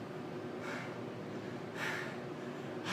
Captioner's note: heavy panting